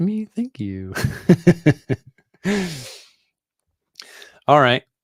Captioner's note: chuckles